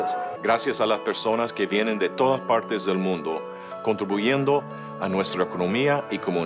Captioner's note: speaking in a foreign language